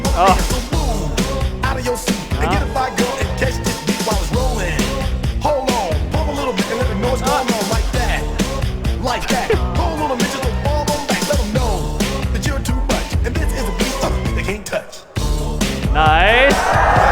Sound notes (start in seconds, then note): 9.3 خنده; 9.8 آواز خواندن